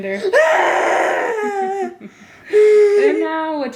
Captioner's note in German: schreit